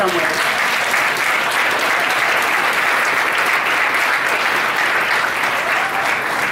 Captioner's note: audience applauding